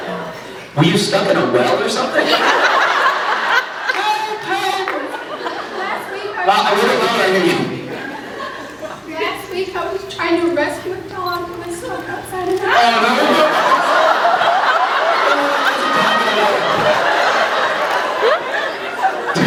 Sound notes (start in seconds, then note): 2.4 laughs; 3.9 high voice; 4.8 scattered laughs; 5.7 croaks; 8.4 croaks; 14.1 laughs; 16.6 laughs